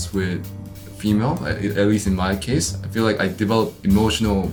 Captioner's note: none